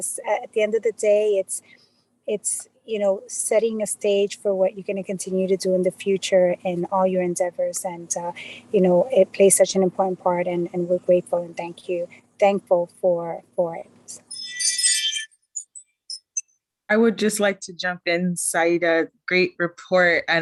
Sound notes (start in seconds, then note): 14.2 chime